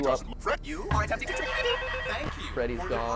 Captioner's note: malfunctioning sounds